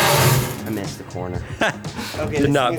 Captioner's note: metal box clangs; laughs